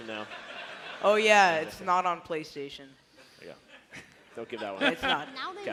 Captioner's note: laughter